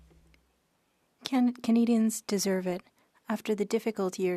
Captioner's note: speaking French